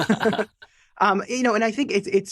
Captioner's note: both laughing